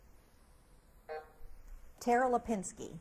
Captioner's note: buzzer buzzes